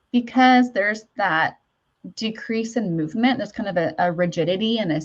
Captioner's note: none